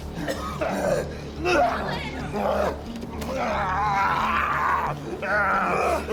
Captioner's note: Malkam coughing and groaning